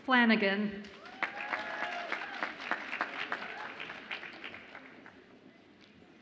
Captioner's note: audience applauds and cheers